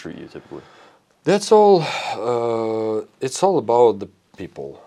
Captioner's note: sighs